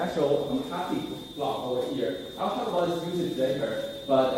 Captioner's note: spoken off mic